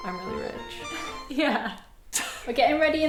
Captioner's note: peaceful music; laughing